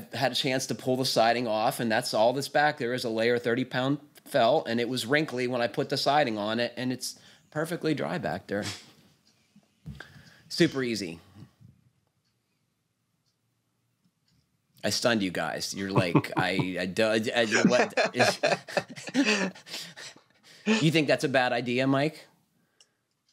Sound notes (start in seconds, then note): 15.8 laughs